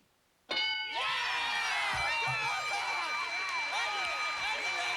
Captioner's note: cheers and applause